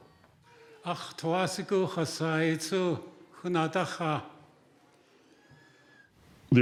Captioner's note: speaking in Łingít